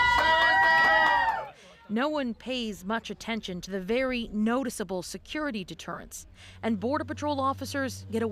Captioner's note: applause